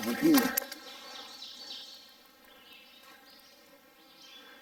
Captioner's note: birds chirping